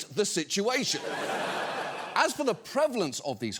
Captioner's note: studio audience laughing